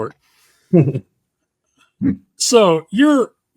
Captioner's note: chuckling